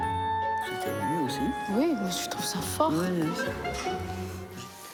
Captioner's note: speaking foreign language